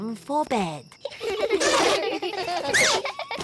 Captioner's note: all giggling